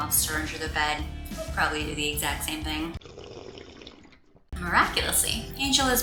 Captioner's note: slurping sfx